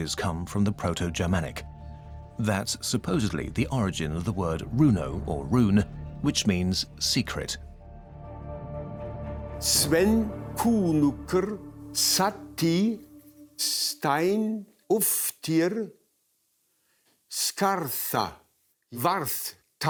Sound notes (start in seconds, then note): 9.6 speaking ancient Germanic language